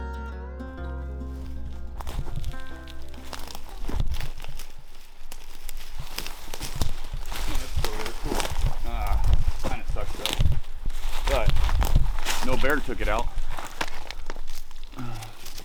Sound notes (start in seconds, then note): 0.0 guitar music fades; 2.7 footsteps crunching